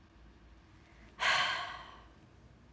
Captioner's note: sighs